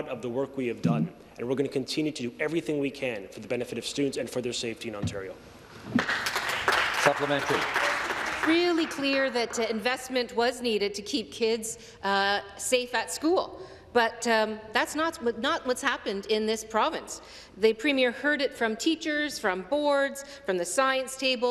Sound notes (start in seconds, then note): 9.9 some Applause